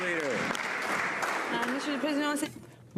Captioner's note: some Applause